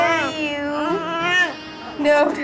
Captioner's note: cries